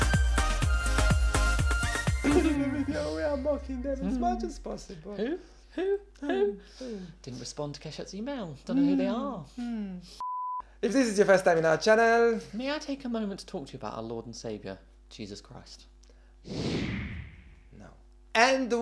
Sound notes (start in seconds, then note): 10.2 beep